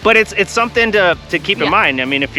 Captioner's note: laughing